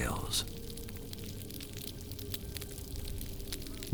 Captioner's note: crackling noise over hydrophone